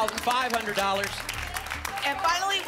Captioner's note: applause